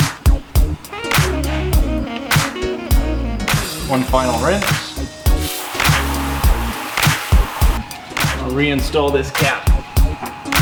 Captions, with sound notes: One final rinse. -(upbeat hip hop music) -(water splashing) I'll reinstall this cap.